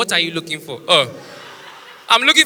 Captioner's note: ugh